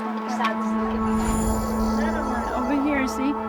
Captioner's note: birds chirping, crickets